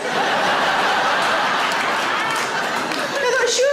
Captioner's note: audience laughing